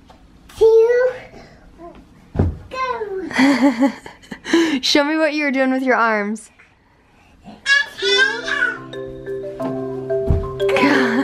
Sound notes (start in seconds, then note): 3.3 laughing; 7.9 playful music